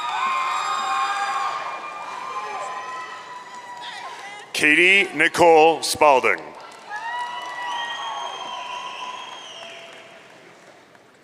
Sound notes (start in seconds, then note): 0.0 audience cheering; 6.6 audience cheering